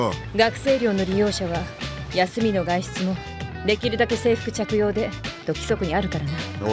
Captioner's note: none